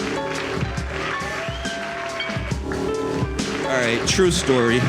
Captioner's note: crowd applauds